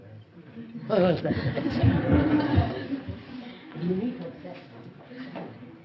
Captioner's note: laughs